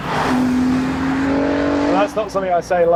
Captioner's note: engine revs